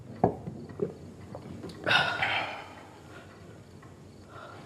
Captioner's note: both sigh